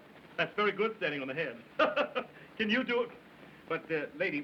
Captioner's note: chuckles